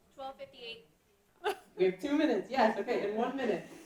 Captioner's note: laughing